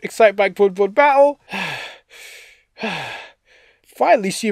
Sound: catching my breath

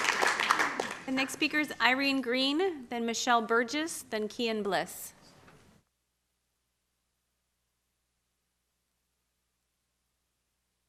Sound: applause

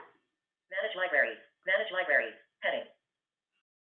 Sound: VoiceOver voice

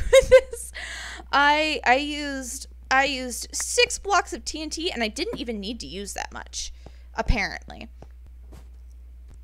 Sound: laughs

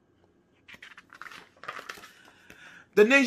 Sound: paper flipping

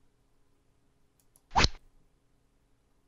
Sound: rod sound

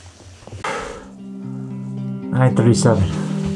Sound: exhales; calming guitar music

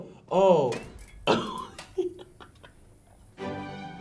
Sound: laughs

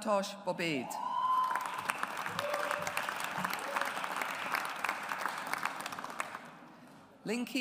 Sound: audience applauds

